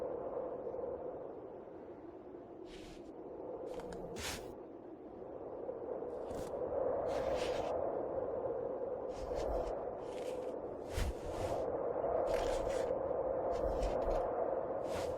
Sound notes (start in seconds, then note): 0.1 wind whistling continues; 3.7 bag rustling; 11.5 wind whistling continues